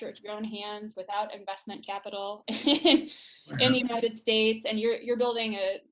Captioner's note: laughs